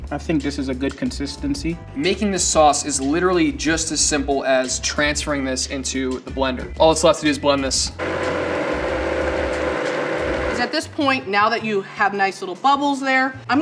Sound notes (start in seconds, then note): 8.0 blender whirring